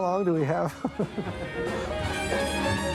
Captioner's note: chuckles